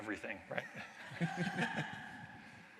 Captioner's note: laughter